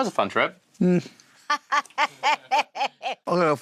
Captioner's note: Sharon laughs